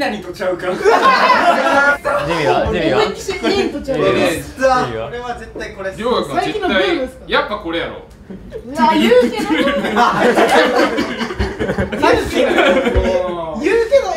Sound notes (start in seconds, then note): 10.8 laughters